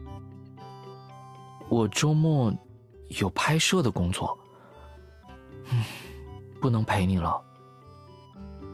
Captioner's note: sigh